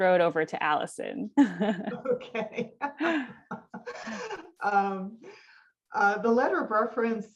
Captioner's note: laugh